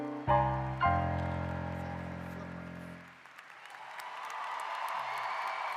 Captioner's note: applause